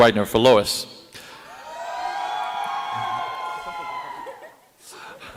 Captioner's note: cheering